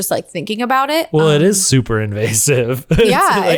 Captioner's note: laughs